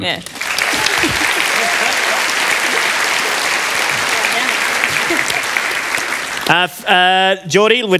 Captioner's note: applause